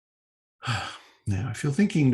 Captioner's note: sighs